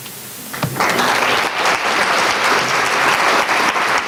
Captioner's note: applause